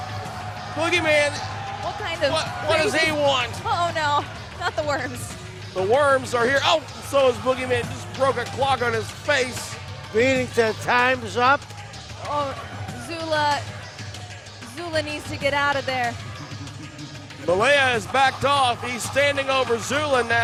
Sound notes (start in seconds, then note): 16.4 laughing